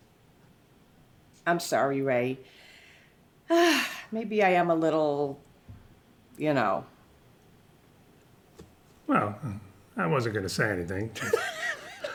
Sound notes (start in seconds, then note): 3.5 sighs